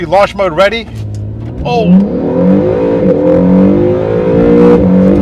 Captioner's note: car engine revving